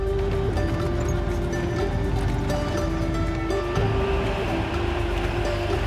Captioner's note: engine rumbling; gentle music